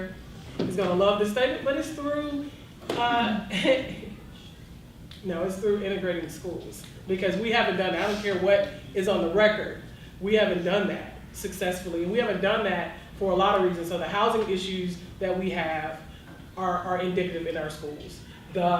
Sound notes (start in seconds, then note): 3.5 audience member whispers